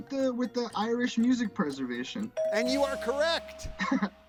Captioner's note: bell chimes